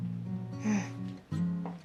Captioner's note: slGHS